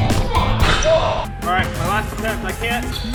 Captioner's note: upbeat funk music; guy in Laker jersey murmurs